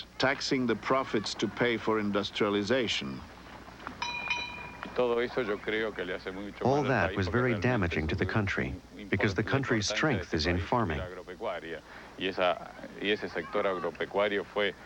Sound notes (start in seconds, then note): 4.0 bell rings